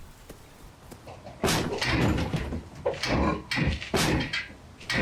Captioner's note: gate rattling